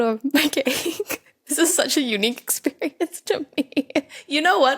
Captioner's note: giggles